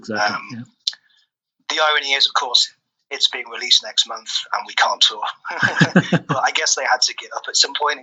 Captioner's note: laughs